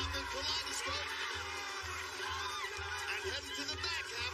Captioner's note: cheers and applause